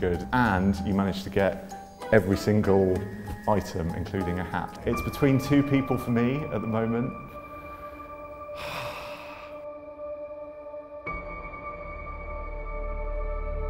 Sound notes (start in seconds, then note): 7.4 heavy sigh; 10.3 slow, dramatic music